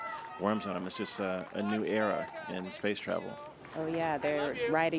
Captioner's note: applause